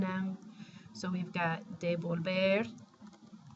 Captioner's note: spanish